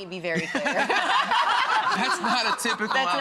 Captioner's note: all laugh